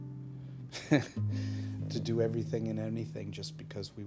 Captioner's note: laughing